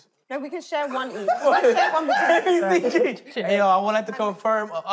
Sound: contestants laughing

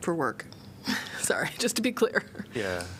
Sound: laughter

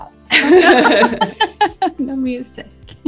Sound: both laugh

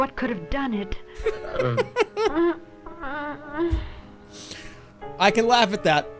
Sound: laughs

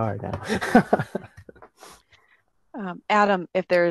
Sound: laughs

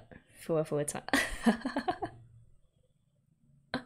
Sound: laughs

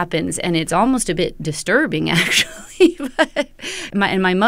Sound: laughter

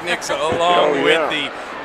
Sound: cheering

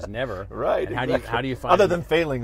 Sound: laughing

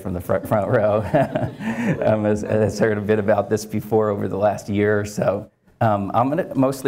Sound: laugh

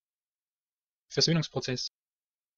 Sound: fast Pronunciation

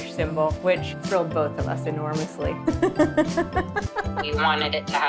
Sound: laughter

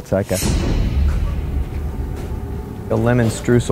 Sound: suspenseful thud

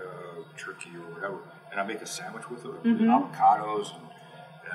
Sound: none

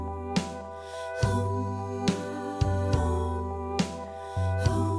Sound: playback of recorded ♪ Hmmmmm, muummmm

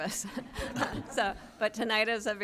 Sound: chuckling

